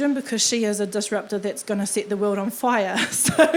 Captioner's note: laughing